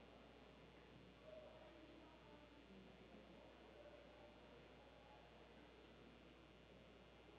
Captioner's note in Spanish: none